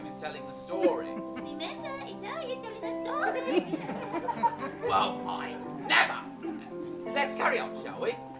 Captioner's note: high-pitching, mocking